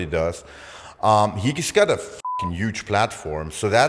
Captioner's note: beep